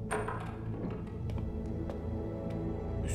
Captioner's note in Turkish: Kapı açılma sesi